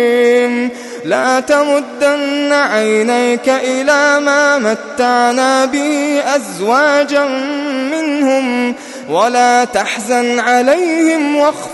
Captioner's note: longingly